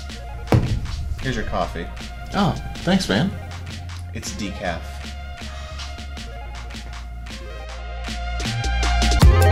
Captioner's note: sighs